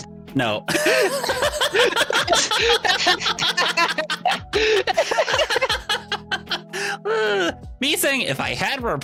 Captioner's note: laughs